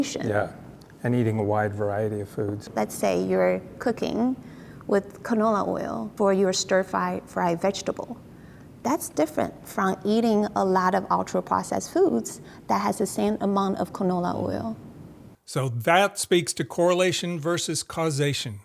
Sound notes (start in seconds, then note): none